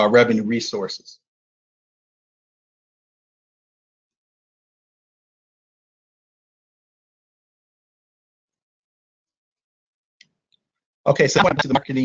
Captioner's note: silence